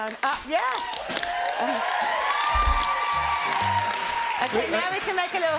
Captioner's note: cheers and applause